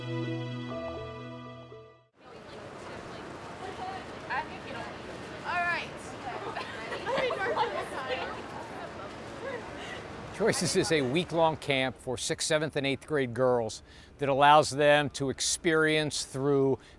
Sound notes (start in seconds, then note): 0.0 musical Introduction; 7.1 sound of girls chatting in background